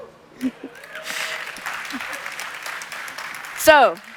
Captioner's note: applause